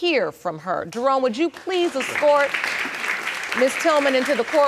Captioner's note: audience applauding